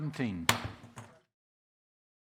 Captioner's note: gavel